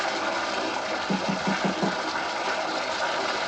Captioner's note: knocking